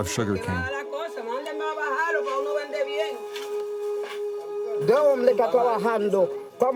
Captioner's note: workers speaking in foreign language